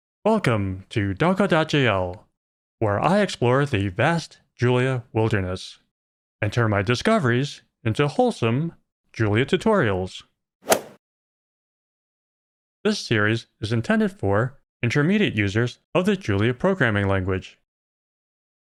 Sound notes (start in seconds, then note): 10.7 golf ball hit sound